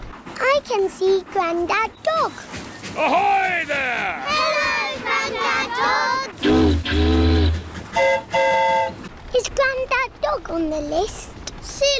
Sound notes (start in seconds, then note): 7.9 train horn toots; 7.9 boat horn honks